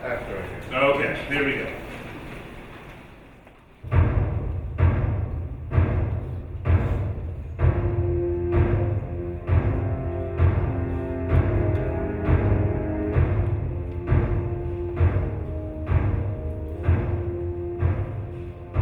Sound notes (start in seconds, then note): 5.0 loud repeated thudding and slow instrumental music